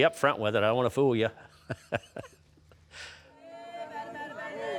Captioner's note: laughs; onlookers chanting and clapping